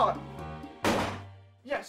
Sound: gunshot

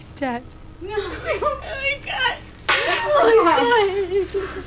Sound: woman sobbing

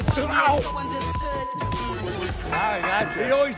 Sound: beep

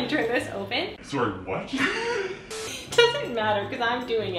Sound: laughing

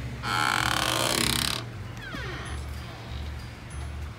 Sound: door creaks

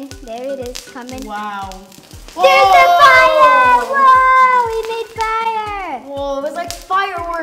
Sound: fireworks

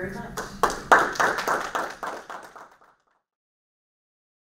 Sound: audience applause

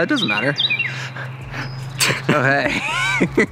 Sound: laughing; man laughing

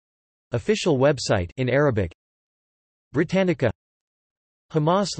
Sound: in Arabic

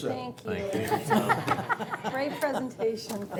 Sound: laughter

